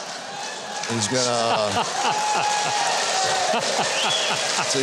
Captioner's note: audience cheers